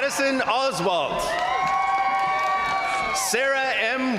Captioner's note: crowd cheering; crowd applauding